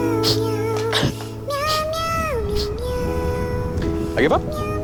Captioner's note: sobs